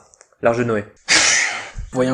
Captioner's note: heavy sigh